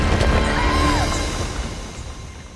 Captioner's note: scream